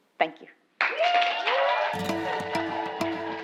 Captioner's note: applause